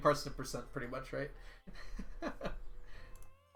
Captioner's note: laughs